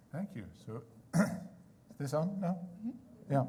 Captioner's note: clears throat